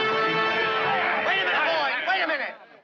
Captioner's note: troopers shouting